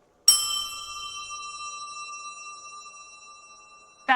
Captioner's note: glass ringing